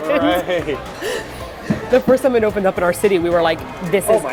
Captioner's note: laughing